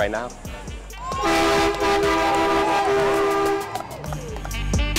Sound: car honking

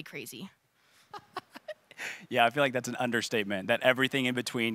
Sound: laughing

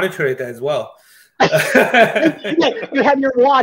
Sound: laughs

